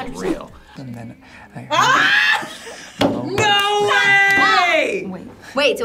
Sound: screams

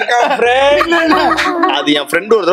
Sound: laughs

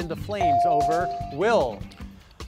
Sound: device dings

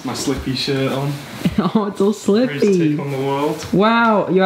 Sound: laughs

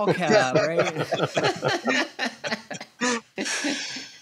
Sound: laughter

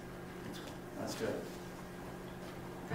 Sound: voiceover

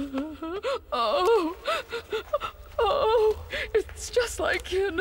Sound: crying

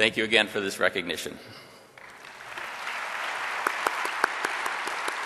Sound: audience applause

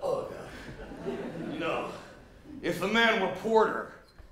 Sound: belches

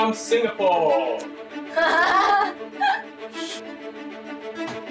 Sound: laughs

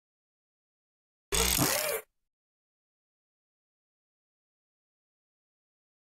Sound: sound of robot

